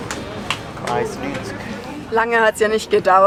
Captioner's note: in Swiss German